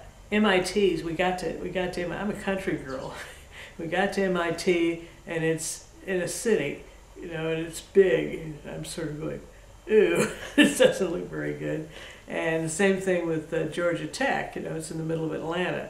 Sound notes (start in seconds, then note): 3.5 laughs